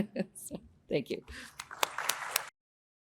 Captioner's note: audience applauding